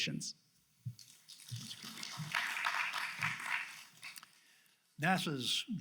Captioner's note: audience applauds